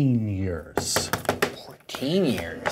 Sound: booklet thuds

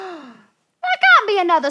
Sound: gasps

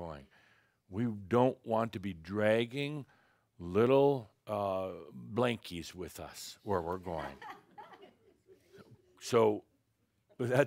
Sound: a few giggles

